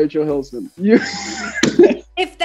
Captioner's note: laughing